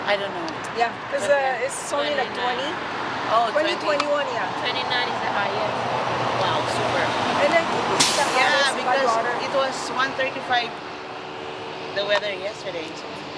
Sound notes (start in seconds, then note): 6.3 women chattering; 7.3 vehicle whooshing